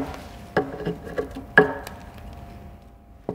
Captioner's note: hammering